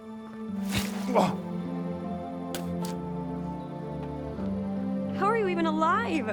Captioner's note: gentle music; Walter gasps